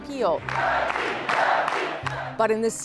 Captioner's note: chanting